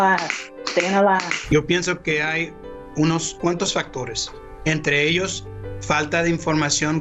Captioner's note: gentle piano music; speaks in foreign language